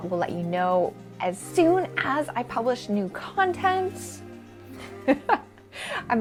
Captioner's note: laughs